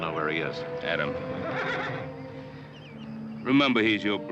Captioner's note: horse whinnies